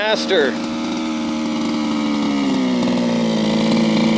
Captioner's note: engine roaring